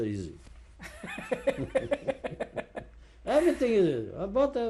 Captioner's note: laughs